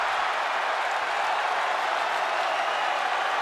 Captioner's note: crowd cheers